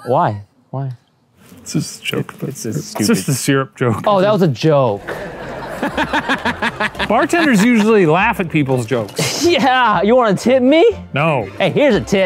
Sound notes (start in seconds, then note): 5.0 all laughing; 9.0 laughs